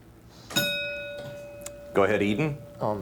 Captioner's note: bell dinging